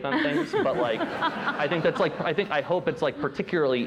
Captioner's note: laughter